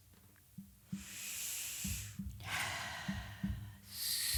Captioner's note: deep sigh